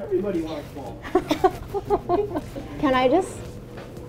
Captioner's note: laughing